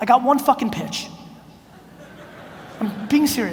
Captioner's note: audience laughs